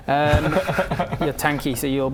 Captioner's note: relieved giggles; resigned giggles